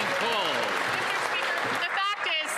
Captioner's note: applause